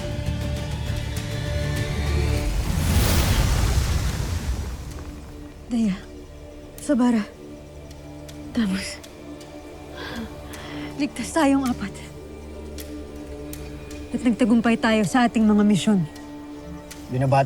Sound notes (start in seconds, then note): 0.0 music swells; 2.1 sparkling whoosh, energy swirling; 9.5 mystical music playing